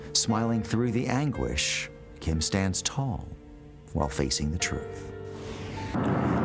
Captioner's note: none